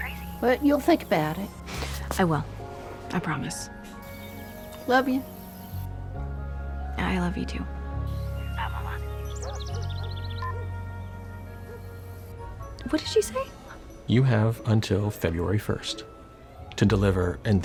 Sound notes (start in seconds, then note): 9.4 phone beeps off, dog barks